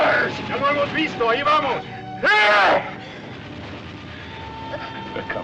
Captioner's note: man Speaking Spanish